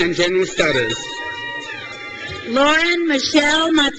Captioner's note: crowd cheers